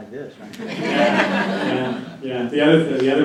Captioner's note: laughter